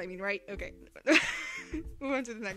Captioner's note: cute laugh